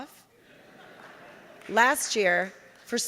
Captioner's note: audience laughing